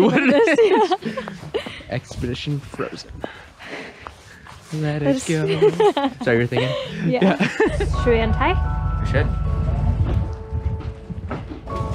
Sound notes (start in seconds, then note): 0.0 both laugh; 5.3 laughs